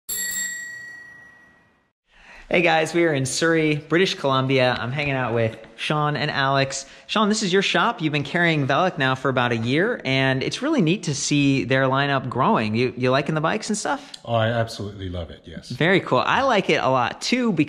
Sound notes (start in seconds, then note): 0.0 bicycle bell